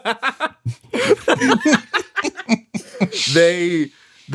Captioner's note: laughs